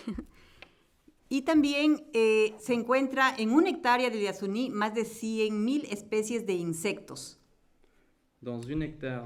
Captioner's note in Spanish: Español